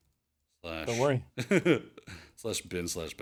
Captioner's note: chuckles